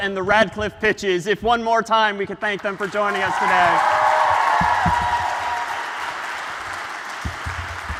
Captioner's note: ปรบมือ